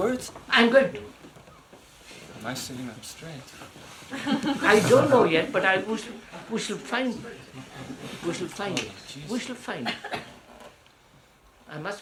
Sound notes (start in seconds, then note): 4.0 laughter